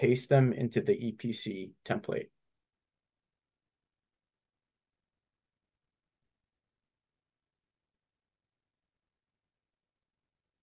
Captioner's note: silence